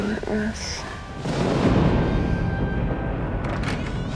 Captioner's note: thunder continues rumbling; door opens